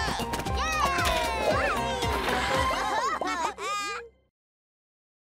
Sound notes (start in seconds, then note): 1.6 laughing